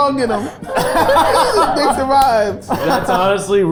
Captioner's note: group laughing